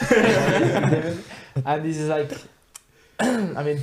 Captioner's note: all laughing